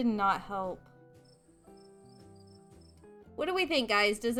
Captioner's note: crickets chirping